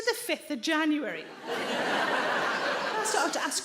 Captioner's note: audience laughing